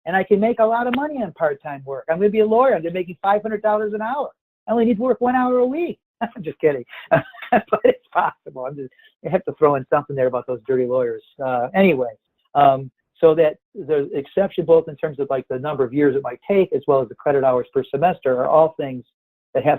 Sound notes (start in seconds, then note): 6.8 laughs